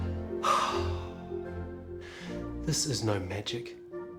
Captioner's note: heavy sighing